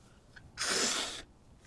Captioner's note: wiping nose